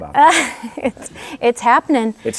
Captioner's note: chuckles